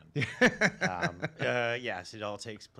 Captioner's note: laughs